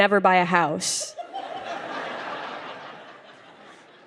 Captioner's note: laughter